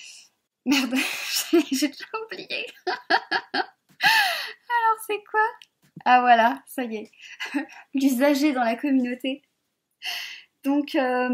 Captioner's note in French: rires